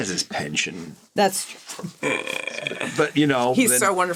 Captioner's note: laughs; chuckles